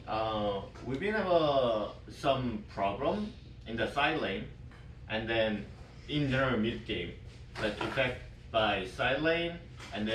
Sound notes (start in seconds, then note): none